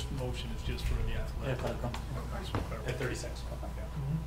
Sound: murmurs

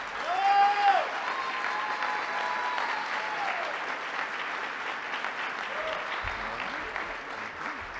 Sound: cheers and applause

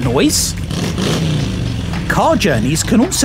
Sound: car revs up

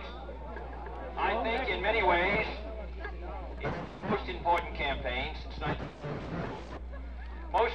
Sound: ? static

